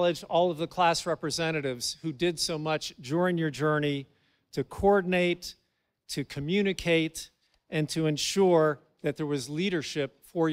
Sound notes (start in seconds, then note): none